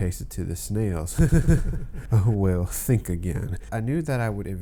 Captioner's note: laugh sarcastically